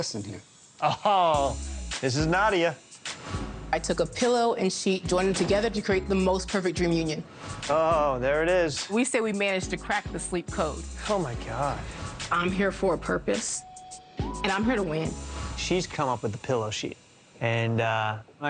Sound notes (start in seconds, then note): 4.0 air whooshes